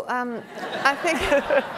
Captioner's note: laughing